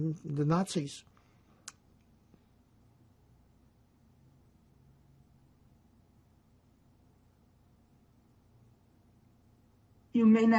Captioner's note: pauses 8 seconds